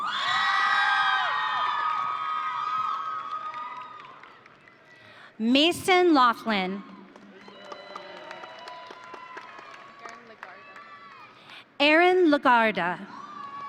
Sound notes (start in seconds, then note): 0.0 audience cheering; 6.8 audience cheering